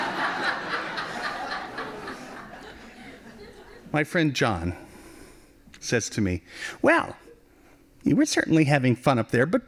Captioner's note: laughing